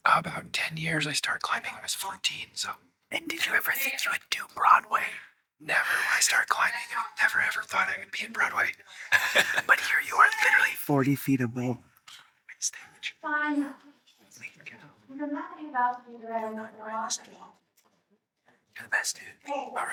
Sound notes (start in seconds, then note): 9.0 laughing; 14.3 whispering indistinctly